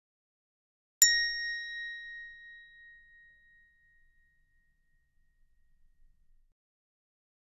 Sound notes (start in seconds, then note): 1.0 sound of hand bell